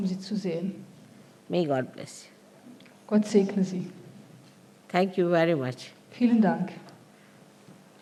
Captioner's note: announcement in german